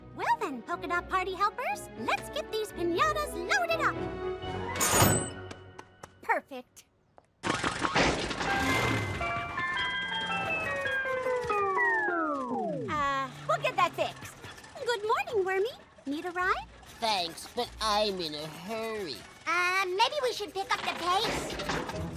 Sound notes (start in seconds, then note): 8.4 jingle playing from truck; 8.5 engine backfires, sputters; 11.0 jingle warps, then stops